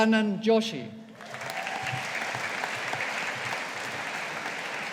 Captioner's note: audience applauding